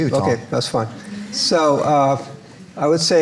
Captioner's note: audience laughs